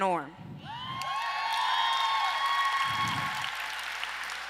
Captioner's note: audience applause